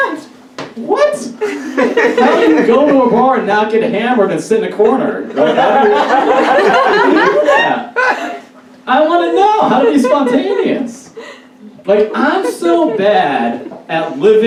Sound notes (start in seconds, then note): 5.3 audience Laughs